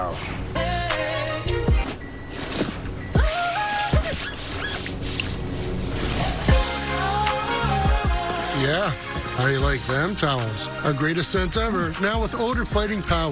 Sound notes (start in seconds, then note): 5.4 squeaking